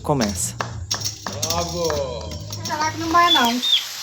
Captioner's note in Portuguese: som de aplausos